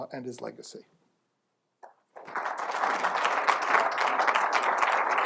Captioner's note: applause